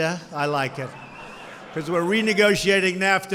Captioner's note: laughter